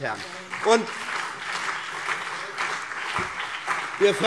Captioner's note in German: Beifall BÜNDNIS 90/DIE GRÜNEN und vereinzelt CDU